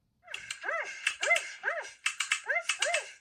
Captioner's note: dog barks